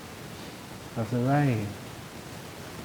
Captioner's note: none